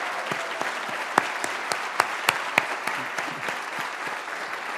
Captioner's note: applause